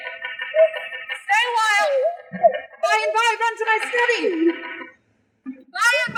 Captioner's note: knocking